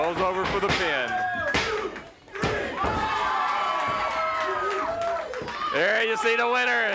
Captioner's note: crowd cheering; hands thudding